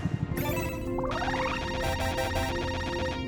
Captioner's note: beeping